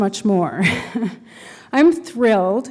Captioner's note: chuckle